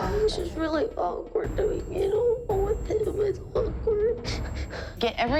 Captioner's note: speaking through tears